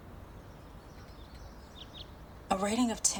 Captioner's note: birds twittering